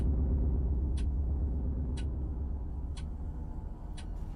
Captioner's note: clock ticking